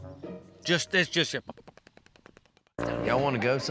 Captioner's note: makes chattering sounds